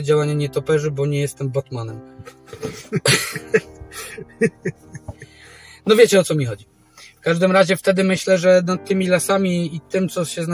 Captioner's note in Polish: śmiech